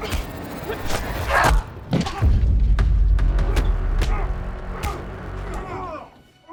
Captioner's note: slashing; grunting; smacking; dramatic orchestral music